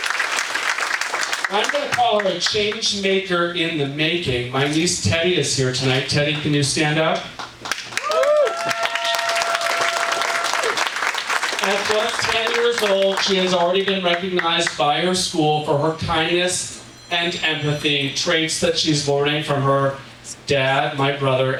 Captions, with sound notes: I'm gonna call her a change maker in the making. My niece Teddy is here tonight. Teddy, can you stand up? (audience applauding) At just 10 years old, she has already been recognized by her school for her kindness and empathy, traits that she's learning from her dad, my brother,